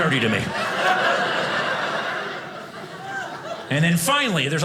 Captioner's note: audience laughing